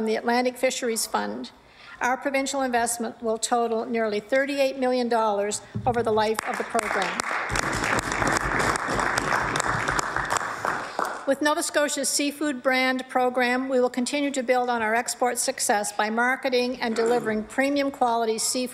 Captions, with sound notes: SUSTAINABLE FOR GENERATIONS WITH PROJECT FUNDING AVAILABLE FROM THE ATLANTIC FISHERIES FUND. OUR PROVINCIAL INVESTMENT WILL TOTAL NEARLY $38 MILLION OVER THE LIFE OF THE PROGRAM. [ APPLAUSE ] WITH NOVA SCOTIA'S SEAFOOD BRAND PROGRAM, WE WILL CONTINUE TO BUILD ON OUR EXPORT SUCCESS BY